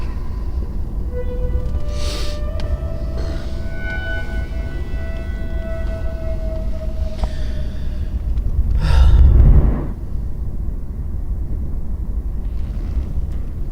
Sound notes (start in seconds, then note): 0.0 sighs; 2.5 sniffles; 3.0 sighs; 5.6 sighs